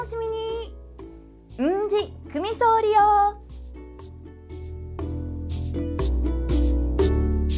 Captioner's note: in Okinawan